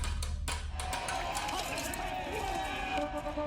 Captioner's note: hammer thudding; audience cheering; horns blaring